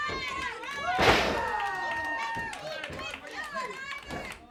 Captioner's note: ring shudders